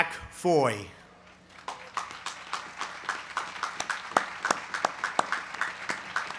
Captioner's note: applause